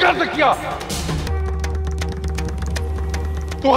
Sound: conch blows

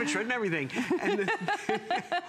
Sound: laughter

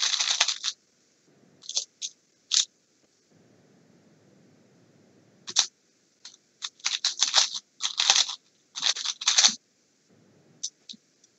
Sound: Sounds of the Rubik's Cube

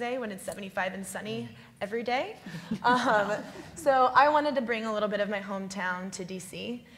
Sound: laughs

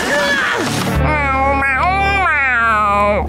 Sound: groaning; meowing

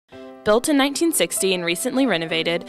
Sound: voiceover

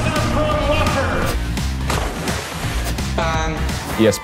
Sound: water splashes; horn honks

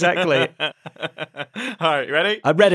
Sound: laughs

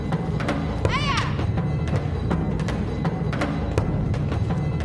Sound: Taylor shouting

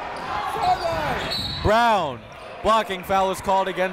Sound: whistle blows

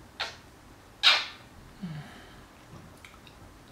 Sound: moany kiss thing, out comes the tounge

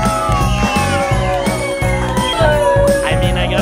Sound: cheering

